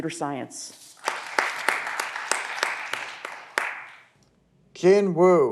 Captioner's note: audience applause